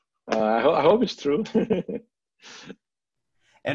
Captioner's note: laughs